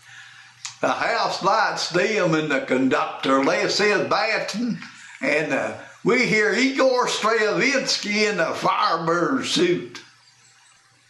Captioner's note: using announcer voice